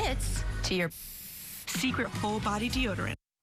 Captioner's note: SFX: deoderant being sprayed